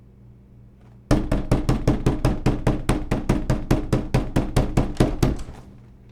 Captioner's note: loud knocking